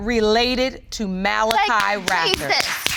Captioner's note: clapping